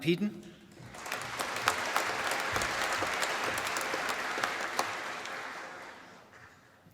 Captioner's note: applause